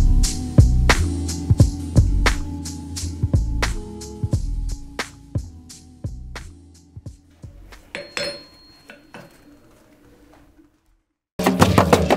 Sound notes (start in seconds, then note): 7.5 metal clinks; 11.4 drums Beat